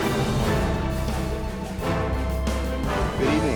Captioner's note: none